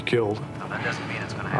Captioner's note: on phone